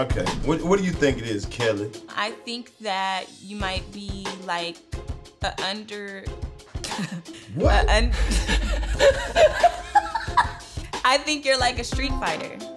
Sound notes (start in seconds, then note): 6.2 chuckles; 8.2 girls laughing